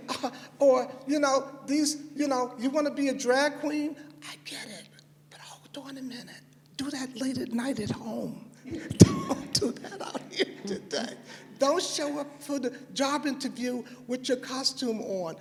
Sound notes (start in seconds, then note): 8.7 laughter